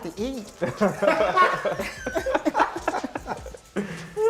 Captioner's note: laughter